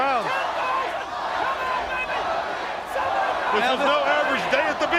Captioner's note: crowd chatter